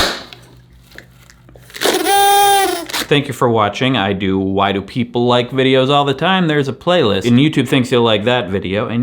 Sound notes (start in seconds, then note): 0.1 party popper exploding; 1.7 slow party horn blowing